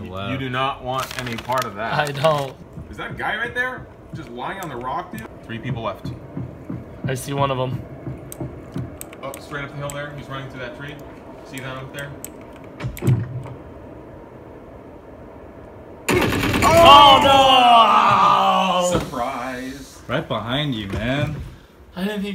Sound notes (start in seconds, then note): 16.1 gunshots